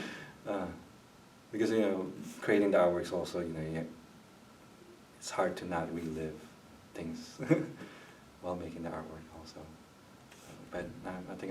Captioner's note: chuckles